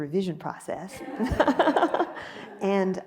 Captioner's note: laughs